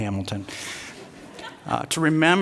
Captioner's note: laughter